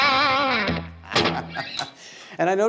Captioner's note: laughing